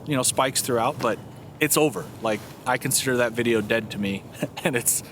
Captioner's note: laughs